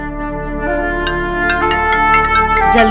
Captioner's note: Phone rings